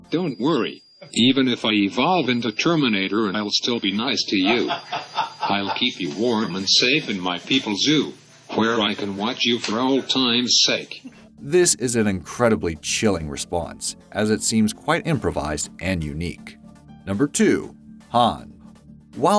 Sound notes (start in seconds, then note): 4.4 laughter